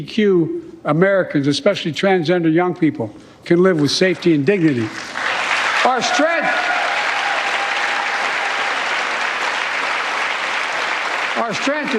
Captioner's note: cheers and applause